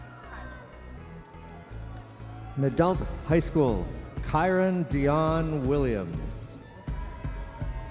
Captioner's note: audience members cheering